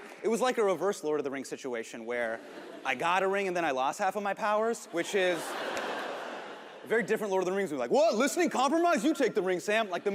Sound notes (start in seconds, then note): 4.6 audience laughs